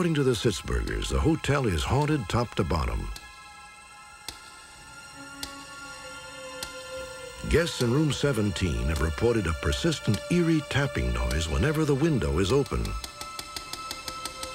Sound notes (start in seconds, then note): 3.4 tapping; 12.7 rapid tapping